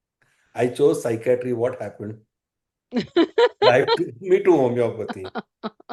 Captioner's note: laughter